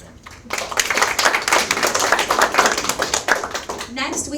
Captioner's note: audience applaud